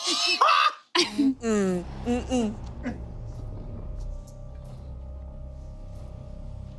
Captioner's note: cackles; people humming; dramatic music continues